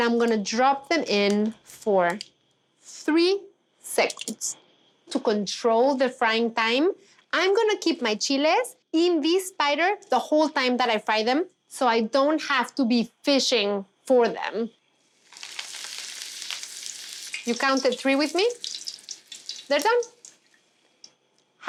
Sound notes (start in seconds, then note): 14.9 oil sizzles